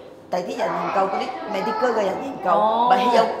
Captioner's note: Cantonese